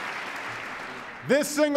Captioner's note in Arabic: تصفيق